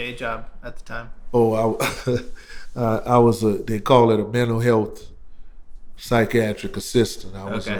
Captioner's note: laughter